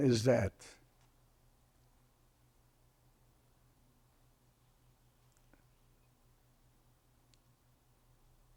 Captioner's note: pauses 8 seconds